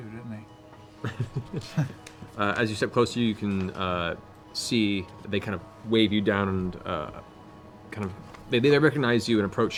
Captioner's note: laughs